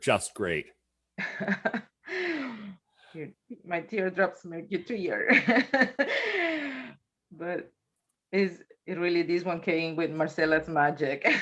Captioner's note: chuckles